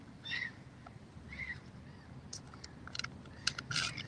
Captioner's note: birds chirping